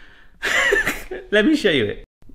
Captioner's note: laughing